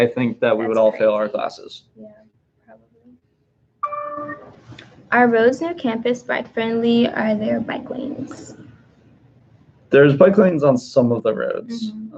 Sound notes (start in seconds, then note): 3.8 computer dings